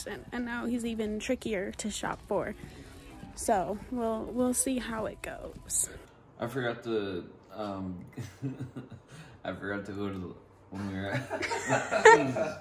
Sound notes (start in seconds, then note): 8.2 laughs; 11.1 all laugh